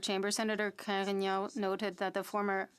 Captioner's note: speaking French